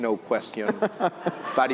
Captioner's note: laughter